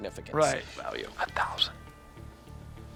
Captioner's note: whispering